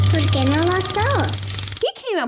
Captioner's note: speaking foreign language